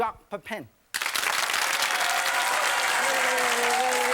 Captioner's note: applause